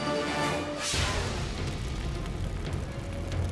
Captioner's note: air whooshes